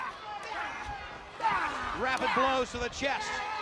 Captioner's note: crowd chatter